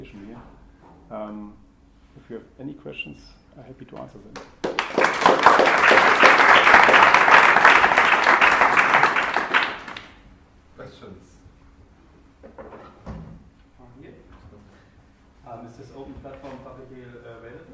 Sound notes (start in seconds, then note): 4.3 applause